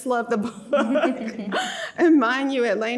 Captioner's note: laughs